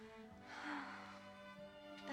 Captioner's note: sighs